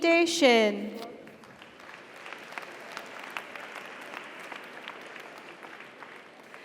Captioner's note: audience cheers; audience applauds